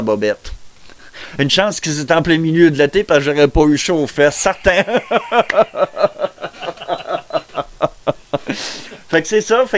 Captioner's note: laugh